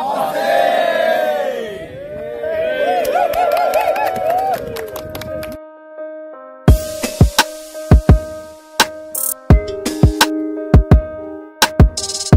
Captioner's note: applause